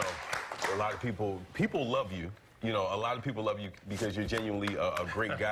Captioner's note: applause